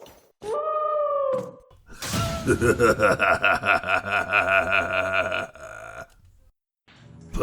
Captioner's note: howls, then Laughs